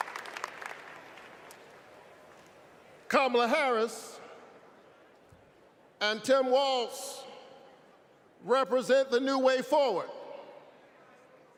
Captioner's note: applause